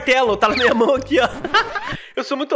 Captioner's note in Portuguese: risos